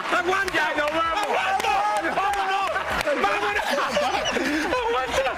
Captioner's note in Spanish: risas